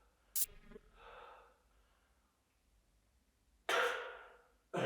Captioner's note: static crackles; Jacob coughs